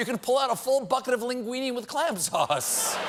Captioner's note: applause; laughter